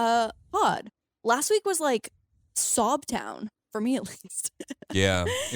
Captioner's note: chuckles